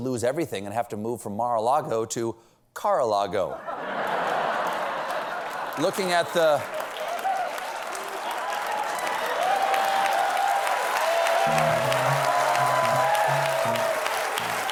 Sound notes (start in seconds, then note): 3.1 applause; 3.5 laughter; 7.2 applause; 8.9 cheers and applause